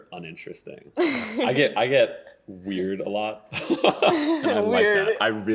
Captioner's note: laughing